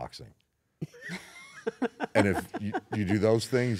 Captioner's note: laugh